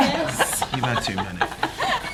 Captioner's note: laughter